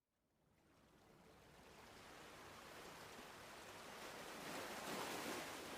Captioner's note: ocean ambience